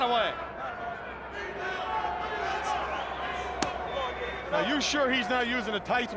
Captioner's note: crowd chatter